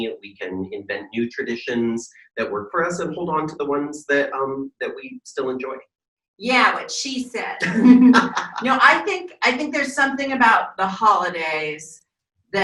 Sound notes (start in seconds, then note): 7.6 laughing